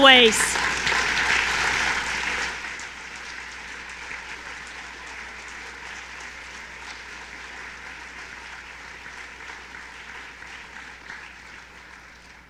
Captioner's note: applause